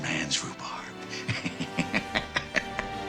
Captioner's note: chuckles